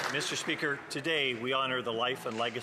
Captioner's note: some Applause